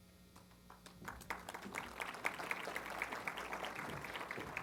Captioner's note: applause